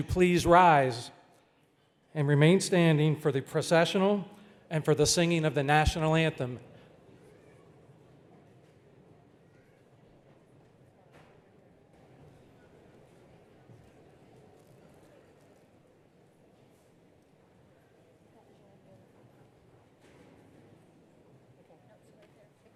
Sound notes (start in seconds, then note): 7.7 child vocalizing